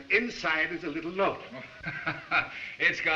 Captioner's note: chuckles